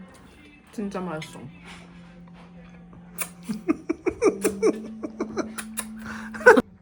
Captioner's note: trying to imitate an Italian lol